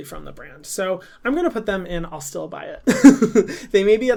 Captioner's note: laughs